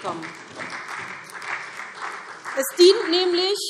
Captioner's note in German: Beifall SPD